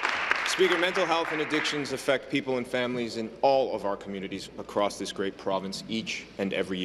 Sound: applause

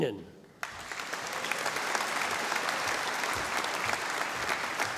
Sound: audience applauding

